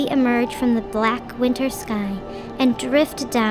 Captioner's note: wind whistling